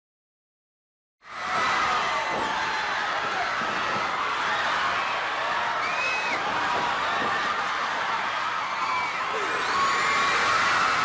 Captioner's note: crowd cheering